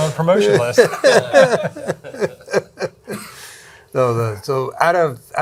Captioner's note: group laughing